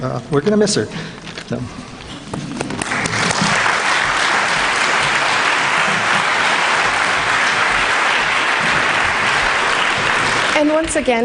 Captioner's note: applause